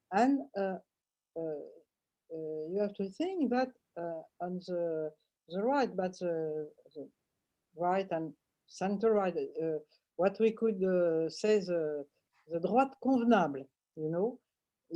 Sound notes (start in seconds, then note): 12.7 french